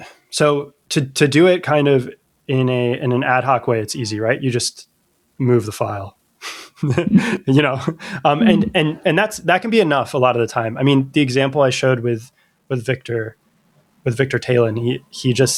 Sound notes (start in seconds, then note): 6.4 uh; 6.8 laughter